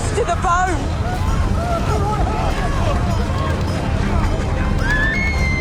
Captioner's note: screaming